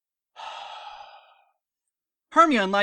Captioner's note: sigh